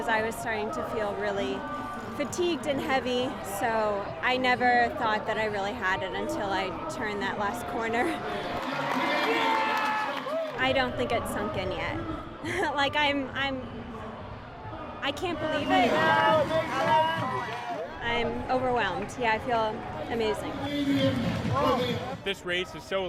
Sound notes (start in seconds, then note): 8.1 cheers and Applause